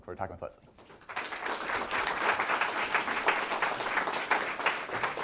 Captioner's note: audience applauding